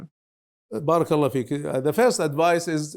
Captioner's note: speaking Arabic